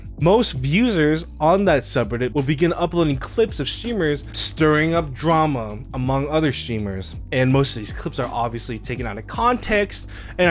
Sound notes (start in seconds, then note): none